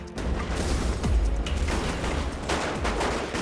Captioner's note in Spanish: Disparos; Explosión; Disparos